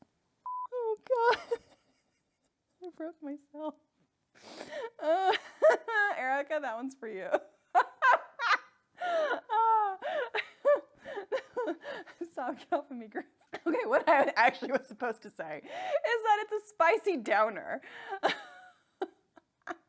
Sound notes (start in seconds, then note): 2.0 laughs; 9.0 laughs; 18.9 laughs